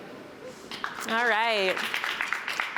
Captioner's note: applause